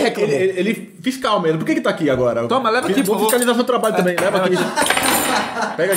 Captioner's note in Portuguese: risos